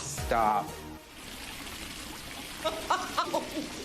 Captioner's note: water running; laughing